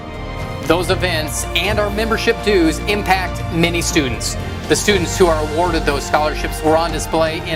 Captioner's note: none